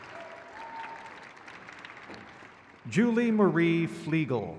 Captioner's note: crowd cheers